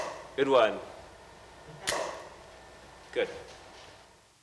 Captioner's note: camera clicks, flash pops